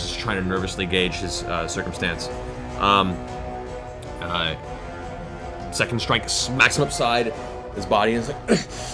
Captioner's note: panting